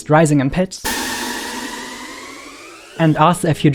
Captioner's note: noise rising in pitch